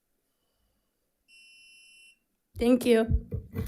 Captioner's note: timer beeps